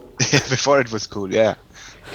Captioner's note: giggles